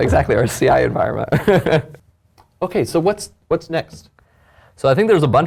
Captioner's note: laugh